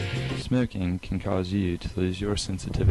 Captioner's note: none